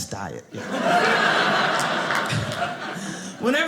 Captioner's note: audience laughing